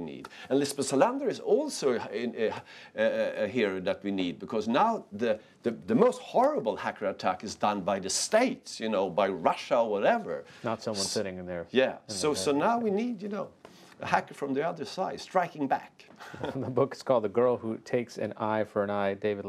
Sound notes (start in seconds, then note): 16.2 laughter